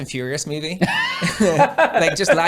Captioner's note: laughing